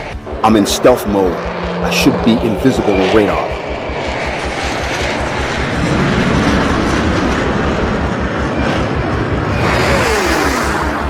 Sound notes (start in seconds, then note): 4.0 engines buzzing